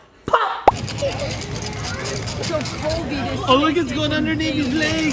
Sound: popping sound

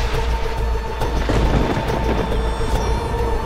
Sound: thundering

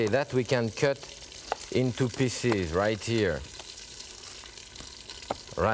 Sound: none

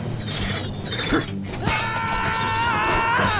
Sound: grunting

